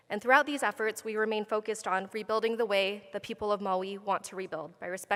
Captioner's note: none